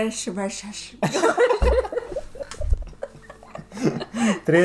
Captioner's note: laughs at the sounds she's making again